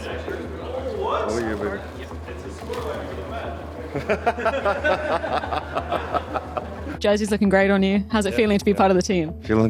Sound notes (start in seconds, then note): 3.5 laughing